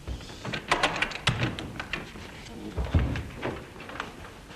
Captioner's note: lock clicks